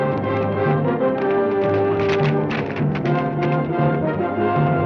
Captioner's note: hooves clack